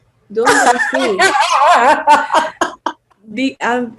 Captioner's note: laughs